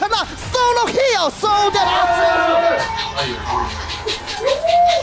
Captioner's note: CFO staff cheering